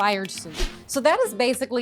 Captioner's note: air whooshes